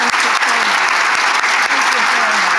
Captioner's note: audience applauding